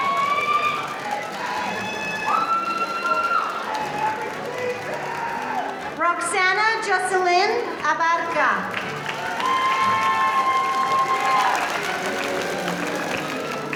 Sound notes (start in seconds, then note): 0.0 audience cheering; 8.9 audience cheering